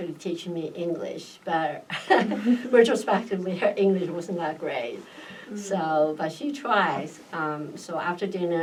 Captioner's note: laughs